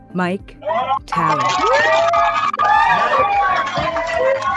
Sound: cheering

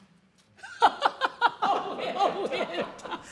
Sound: laughter

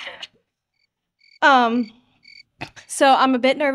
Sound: cricket cricket

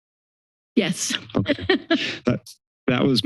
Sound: laughs

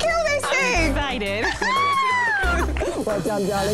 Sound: laughs

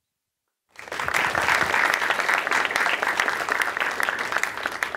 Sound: applause

